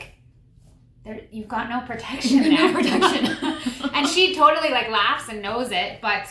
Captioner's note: laughter